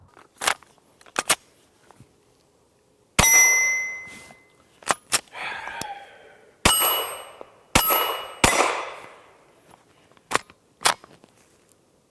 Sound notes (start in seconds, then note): 0.2 slams in magazine; 3.0 gunshot; 3.2 target pings; 5.3 sighs heavily; 6.6 targets pinging; 7.7 gunshots